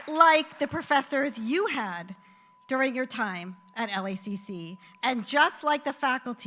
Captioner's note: applause